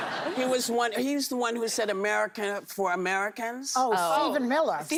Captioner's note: laughter